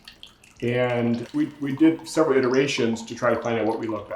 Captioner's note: wine gurgling